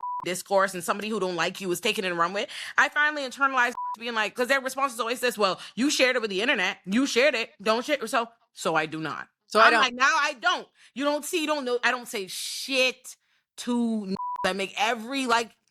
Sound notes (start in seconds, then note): 2.5 beep; 12.7 beep